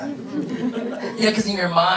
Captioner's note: audience laughing